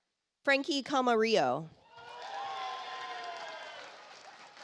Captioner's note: audience applauds